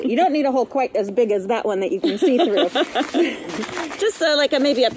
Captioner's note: laughs